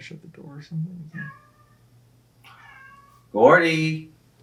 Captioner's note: meowing continues; meow